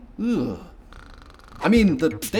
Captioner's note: snoring